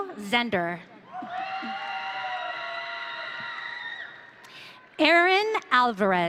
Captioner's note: audience cheering